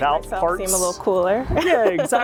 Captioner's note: laughs